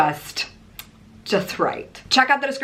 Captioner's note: tongue clicks